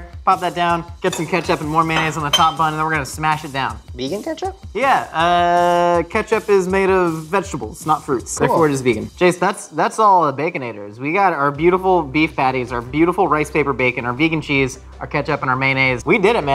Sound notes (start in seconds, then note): none